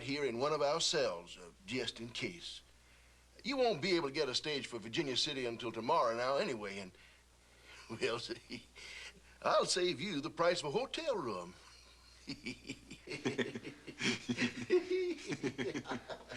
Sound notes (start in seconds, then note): 7.9 chuckles; 11.6 Sheriff and Cyril chortling